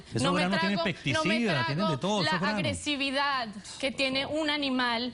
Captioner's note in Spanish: Hablan al unísono